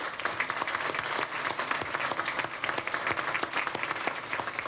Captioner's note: applause